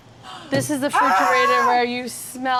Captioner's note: yells